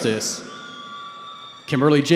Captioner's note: cheering